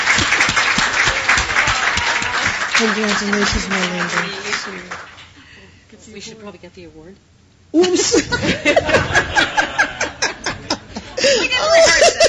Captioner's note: applause; laughing